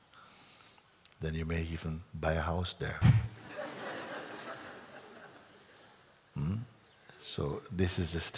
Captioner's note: laughter